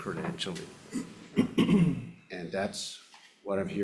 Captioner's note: senator clearing throat